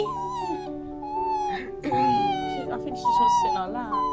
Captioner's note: Ruby whining